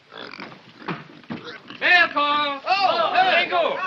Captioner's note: excited shouts